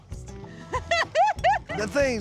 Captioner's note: laughing